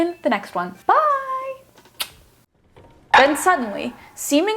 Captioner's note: lips smacking